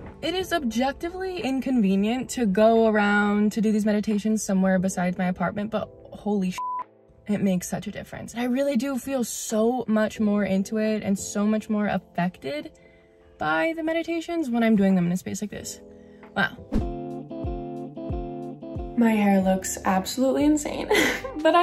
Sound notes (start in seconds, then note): 6.5 beep; 16.4 upbeat music